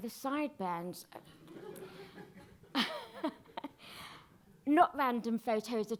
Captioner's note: audience laughing